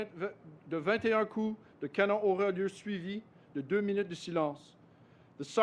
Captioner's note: speaks French